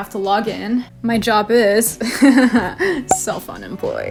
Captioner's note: laughs